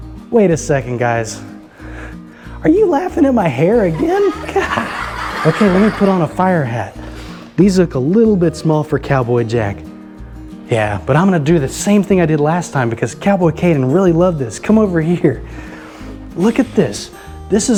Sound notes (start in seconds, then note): 3.7 children laughing